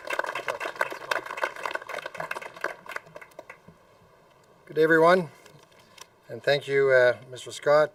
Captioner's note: applause